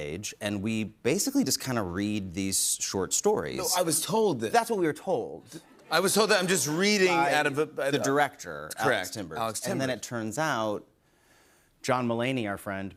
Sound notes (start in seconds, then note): none